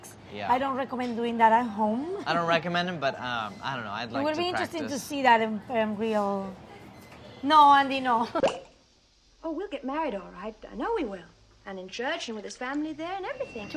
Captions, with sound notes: I don't recommend doing that at home. - I don't recommend them, but I don't know, I'd like to practice. - It would be interesting to see that in real... No Andy, no. [champagne pops] - Oh we'll get married all right, I know we will. And in church and with his family there and everything.